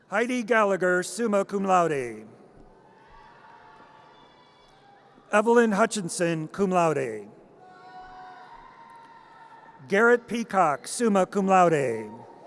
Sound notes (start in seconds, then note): 3.2 audience cheers; 7.7 audience cheers; 12.3 audience cheers